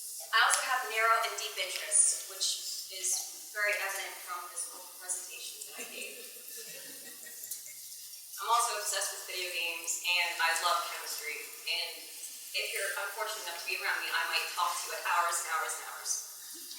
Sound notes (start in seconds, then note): 5.6 laughs